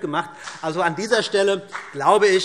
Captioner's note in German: Beifall BÜNDNIS 90/DIE GRÜNEN